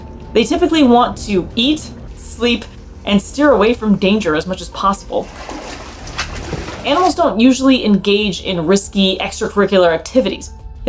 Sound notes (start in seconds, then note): 5.2 background music; 5.2 water splashing noise